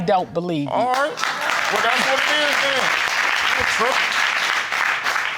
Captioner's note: audience applauding